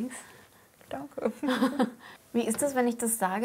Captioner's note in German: Lachen